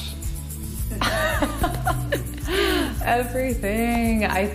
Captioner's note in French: laughs